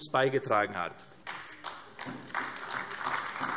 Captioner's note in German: Beifall AfD